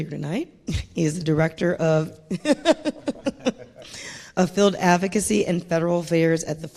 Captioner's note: laughs